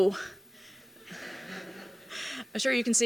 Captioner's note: laughter